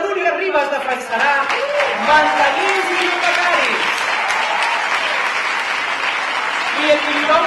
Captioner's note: cridòria